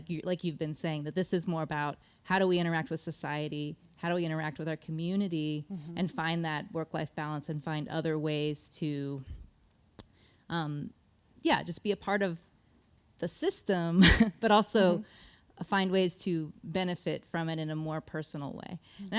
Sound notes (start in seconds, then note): 13.7 chuckles